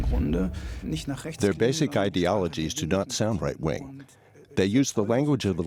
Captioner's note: 2nd male voice